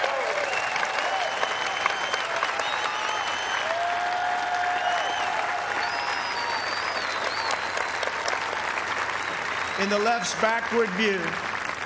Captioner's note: applause